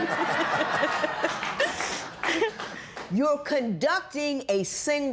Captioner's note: laughter